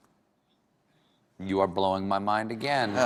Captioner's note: laughter